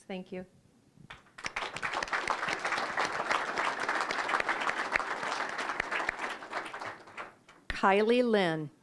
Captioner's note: applause